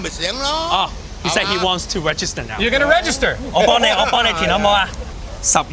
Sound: speaking foreign language

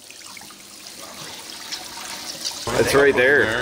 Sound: trickling water

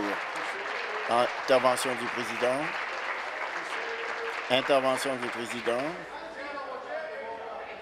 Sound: applause

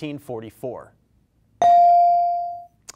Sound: bell rings

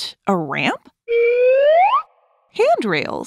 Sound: slide whistle

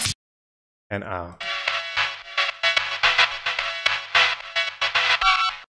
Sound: electronic sound

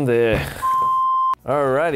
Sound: beeping

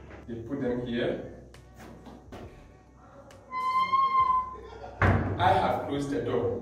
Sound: door bangs

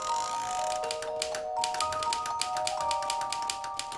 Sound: knob cranking; keys clicking

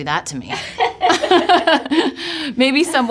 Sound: laughing

